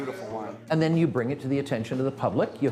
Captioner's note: voiceover